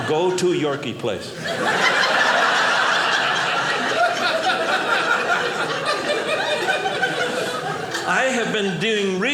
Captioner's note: audience laughing